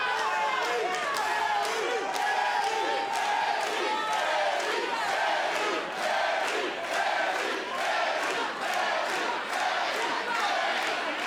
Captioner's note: crowd cheering